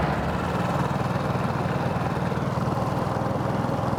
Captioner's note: motor rumbling